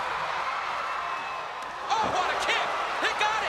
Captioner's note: crowd cheering